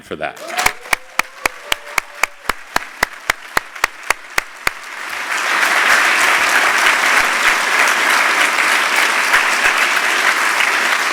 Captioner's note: applause